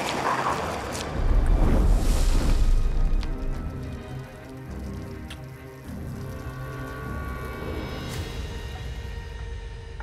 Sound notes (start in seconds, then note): 1.2 whooshing; 3.3 blood trickling; 6.4 light dramatic music